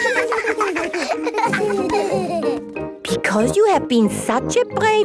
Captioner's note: laughter